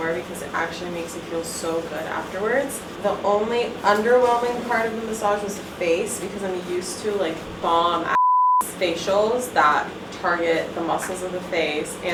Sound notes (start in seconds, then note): 8.1 beep